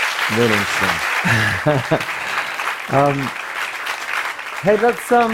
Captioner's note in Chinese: Applause; 掌聲